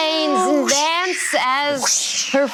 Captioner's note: imitating wind gusting